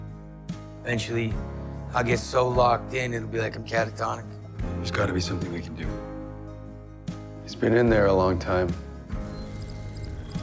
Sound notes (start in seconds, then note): 1.0 voiceover